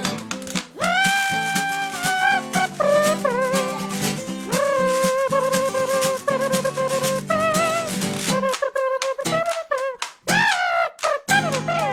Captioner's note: humming